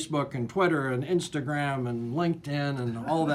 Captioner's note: laughs